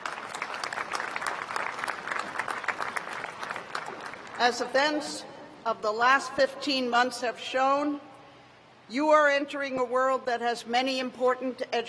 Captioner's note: applause